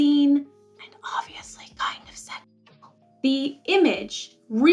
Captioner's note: whisper: and obviously kinda suggual